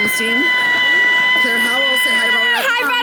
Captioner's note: screaming